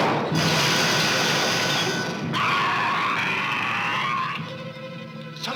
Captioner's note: screaming